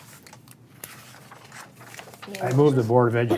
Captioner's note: papers rustle